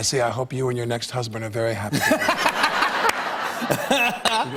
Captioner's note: laughter